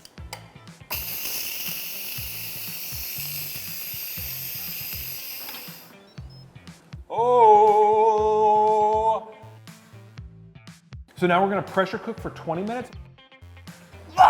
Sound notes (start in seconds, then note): 0.8 instant pot hissing